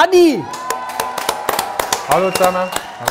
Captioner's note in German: Jubel, Applaus